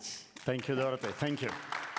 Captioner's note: applause